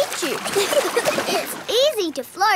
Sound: giggling

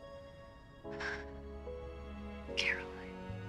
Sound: exhales shakily

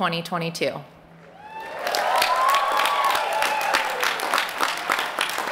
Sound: applause

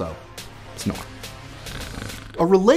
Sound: snore

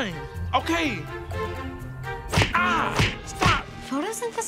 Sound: moans; smacks

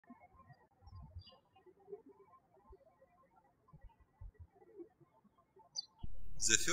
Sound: birds chirping

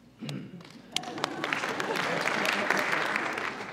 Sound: applause

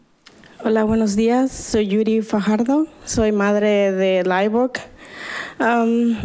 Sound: woman speaking foreign language

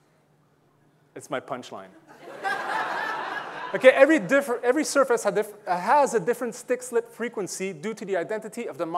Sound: audience laughing

